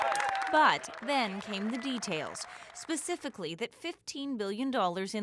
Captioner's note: applause